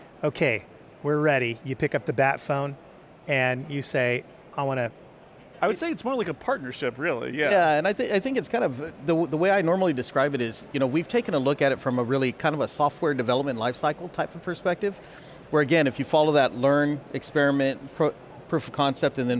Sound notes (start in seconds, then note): none